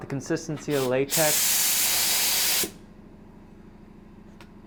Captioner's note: loud spraying